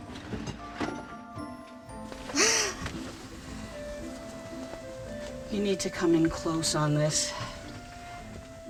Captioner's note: gasps